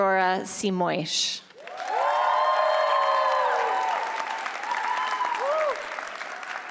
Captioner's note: applause